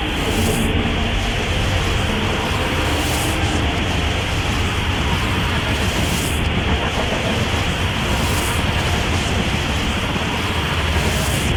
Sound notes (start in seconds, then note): 0.1 time energy noises; 6.4 erratic whooshing